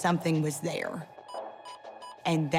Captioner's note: beeping